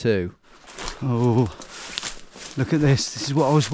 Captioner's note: twigs crunching